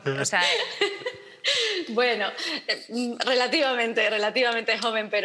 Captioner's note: laughter